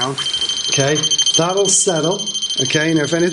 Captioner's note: Rem chirping